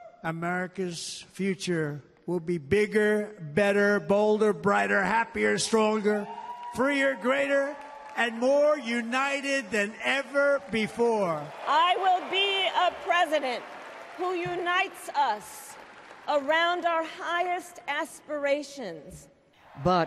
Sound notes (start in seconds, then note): 11.6 applause; 11.6 cheering